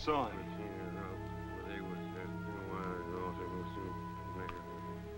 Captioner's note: mumbling